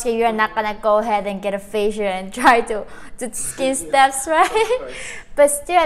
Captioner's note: chuckles